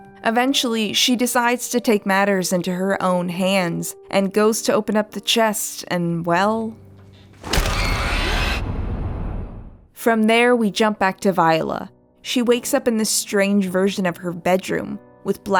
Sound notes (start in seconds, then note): 7.3 abrupt SCARY SOUNDS